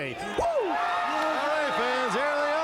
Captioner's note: fans cheering